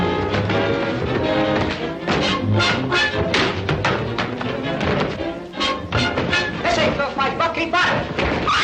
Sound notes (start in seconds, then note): 3.2 chair bangs